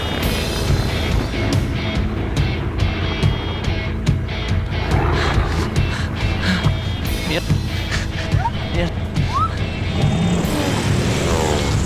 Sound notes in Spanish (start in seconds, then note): 8.0 Ruido de la avioneta